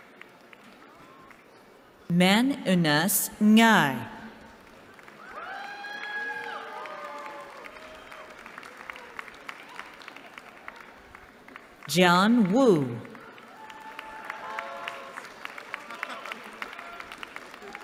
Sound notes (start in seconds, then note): 5.1 cheering; 13.6 applause